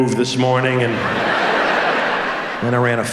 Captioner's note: audience laughs